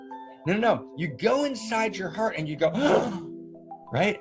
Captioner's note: gasps